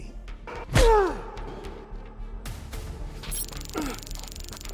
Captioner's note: kick thudding